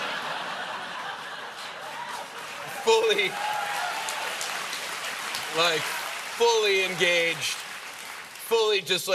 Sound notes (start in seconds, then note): 0.0 laughter; 0.7 applause